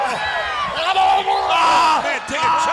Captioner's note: wrestlers grunting